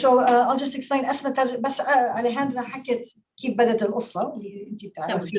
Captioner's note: speaking Arabic